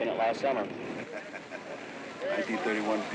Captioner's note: laughing